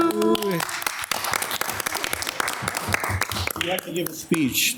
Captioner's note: everyone applauds